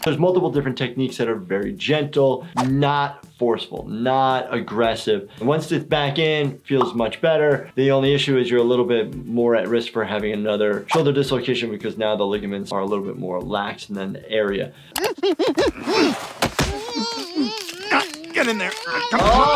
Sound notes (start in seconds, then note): 15.0 struggling noises